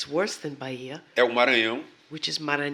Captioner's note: speaking portuguese